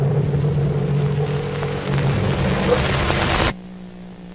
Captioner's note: static hissing